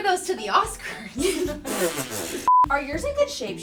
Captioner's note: everyone laughing